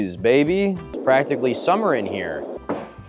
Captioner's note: whooshing